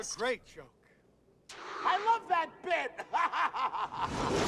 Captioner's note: laughs